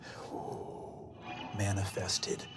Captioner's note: powerful exhale